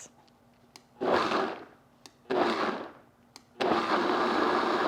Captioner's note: blender blending